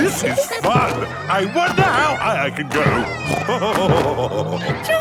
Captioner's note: laughing; snorting and laughing